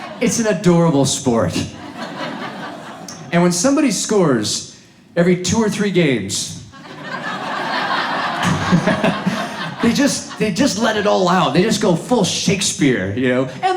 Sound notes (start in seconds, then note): 6.8 audience laughs